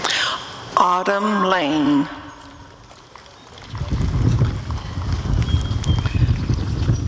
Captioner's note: applause and cheering